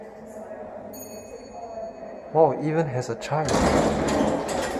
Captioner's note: chime